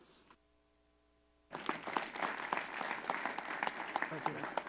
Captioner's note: applause